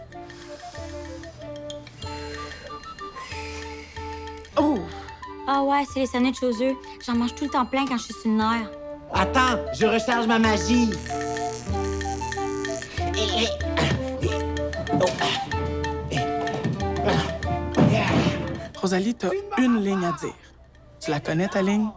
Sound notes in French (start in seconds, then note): 0.0 musique médiévale; 10.6 grésillements électriques; 13.3 musique médiévale